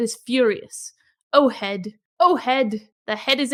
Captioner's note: in Sumerian